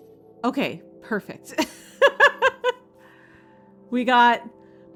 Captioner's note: laughing